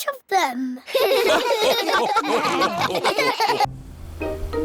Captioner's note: all laugh